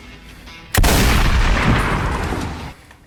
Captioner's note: shotgun blast; racking a round